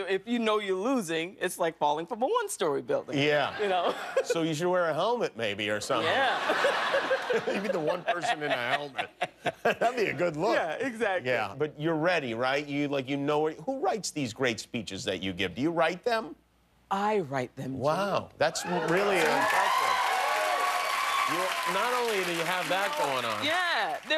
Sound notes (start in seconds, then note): 9.3 laughter